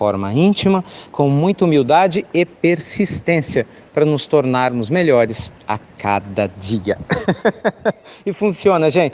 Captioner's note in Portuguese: Risos